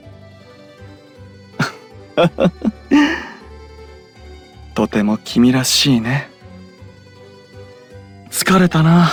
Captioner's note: laugh